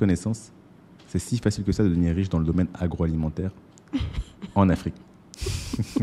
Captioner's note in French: rires